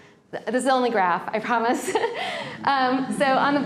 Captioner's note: laughs